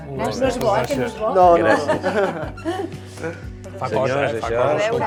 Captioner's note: laughs